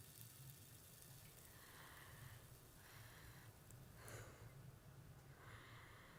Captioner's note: Ellie breathes uneasily